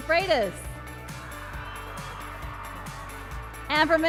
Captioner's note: applause and cheering